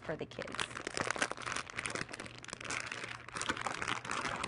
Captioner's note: bag rustling